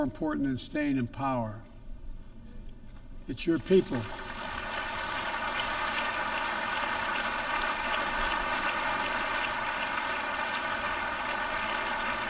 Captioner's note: applause